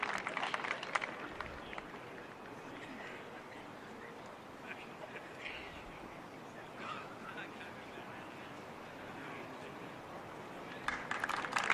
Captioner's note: applause